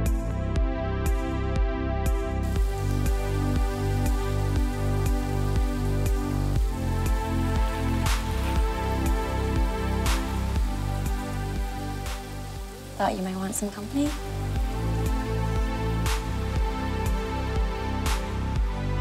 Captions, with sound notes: (water runs) (soft music) - Thought you might want some company. (soft music)